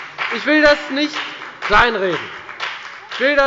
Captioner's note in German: Beifall bei der FDP